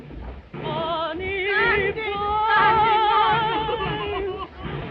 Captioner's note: sobbing